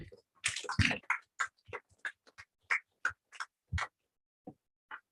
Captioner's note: applause